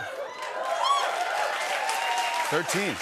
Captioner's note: cheers and applause